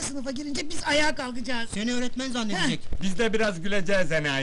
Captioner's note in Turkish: gülüşü